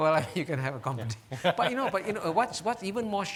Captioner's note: laughing